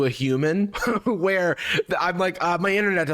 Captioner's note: laughing